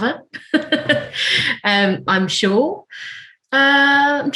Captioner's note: laughing